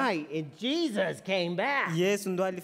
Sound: speaking foreign language

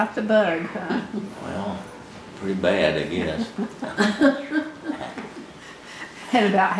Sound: laughter

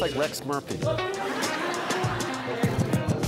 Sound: laughing

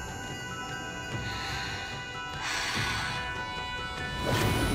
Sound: breathing

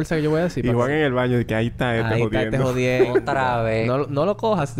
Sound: laughs; laughs

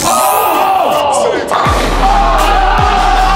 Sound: lads shouting and cheering; upbeat music

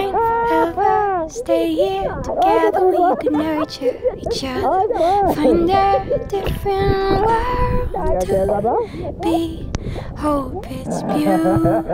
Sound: laughing

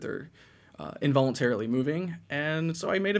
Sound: none

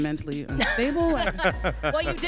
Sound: interviewer laughs; man laughs

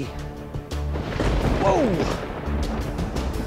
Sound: thunder cracks

